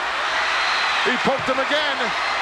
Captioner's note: audience cheers